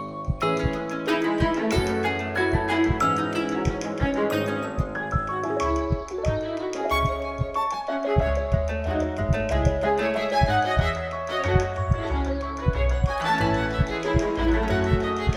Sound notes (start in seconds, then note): 6.9 heartbeat intensifies